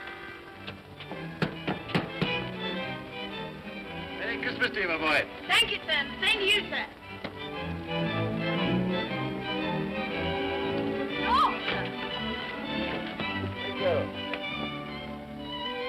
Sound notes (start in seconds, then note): 0.1 upbeat music; 1.3 knocking on door; 2.2 upbeat music; 11.2 woman exclaims; 14.5 upbeat music